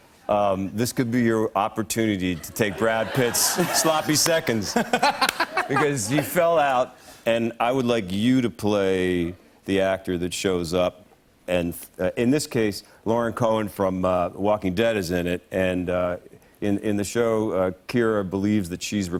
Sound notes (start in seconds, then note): 4.6 laughs